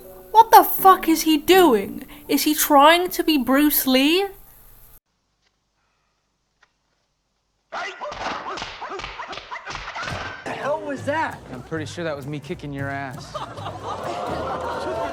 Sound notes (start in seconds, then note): 7.7 Bruce Lee noises